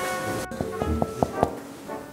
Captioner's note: knock knock knock